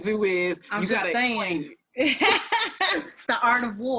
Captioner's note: laughs